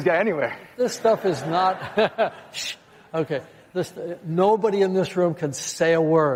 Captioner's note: laughter